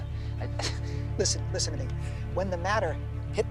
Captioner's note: scoffs